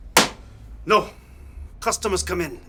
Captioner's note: object slams